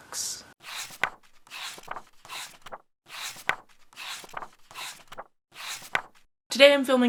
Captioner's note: pages turning